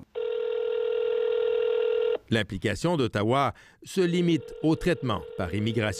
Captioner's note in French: sonnerie de téléphone